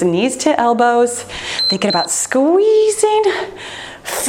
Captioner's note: timer beeps